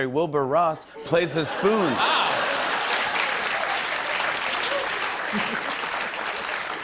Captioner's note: laughter and applause